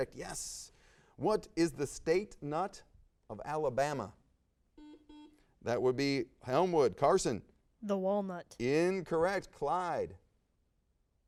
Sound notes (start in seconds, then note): 4.8 buzz